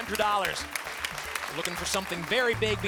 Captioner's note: applause